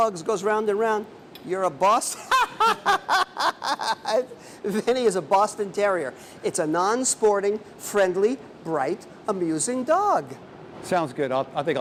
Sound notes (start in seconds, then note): 4.9 laughter